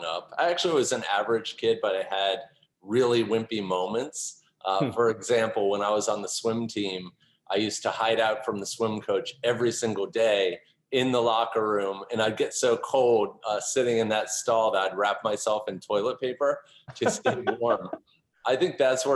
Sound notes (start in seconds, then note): 17.0 laughter